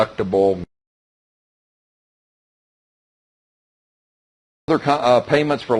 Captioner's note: silence